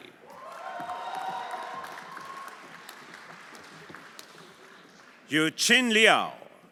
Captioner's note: everyone applauding; audience cheering